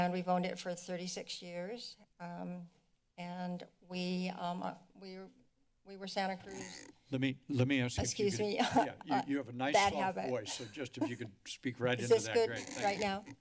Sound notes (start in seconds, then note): 8.0 chuckles